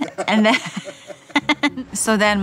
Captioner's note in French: rires